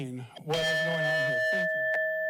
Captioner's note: bell dings